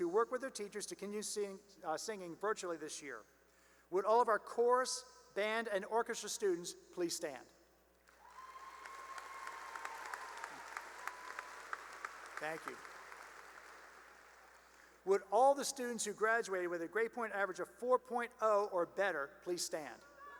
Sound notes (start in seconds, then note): 8.1 cheering and applause; 13.7 applause; 20.2 cheering and applause